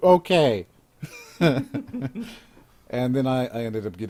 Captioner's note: laughs